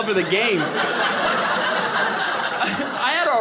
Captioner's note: audience laughing